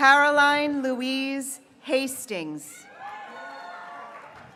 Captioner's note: graduates cheering